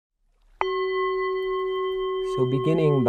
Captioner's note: a single chime